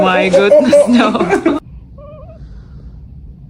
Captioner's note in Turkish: kahkaha